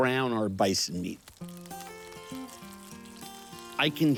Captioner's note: pan sizzling